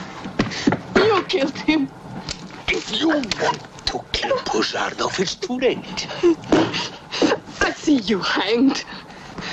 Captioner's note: snorts and crying